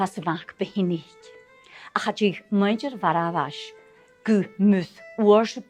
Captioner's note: storytelling in Gaelic